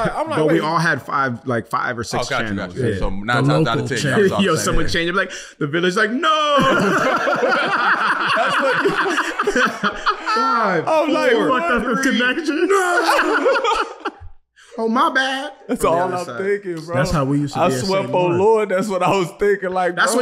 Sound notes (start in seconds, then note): 6.4 group laughing; 13.6 laughing